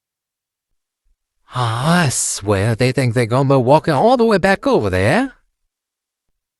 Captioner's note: sighing